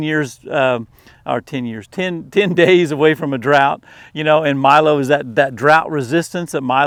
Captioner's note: chuckles